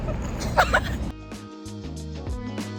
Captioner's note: laughter; upbeat music